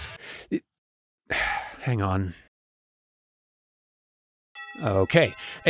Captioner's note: sigh